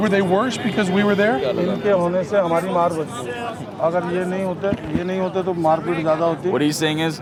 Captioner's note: non-english speech